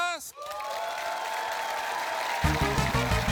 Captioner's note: cheering, applause